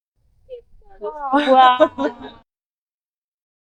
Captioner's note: laughter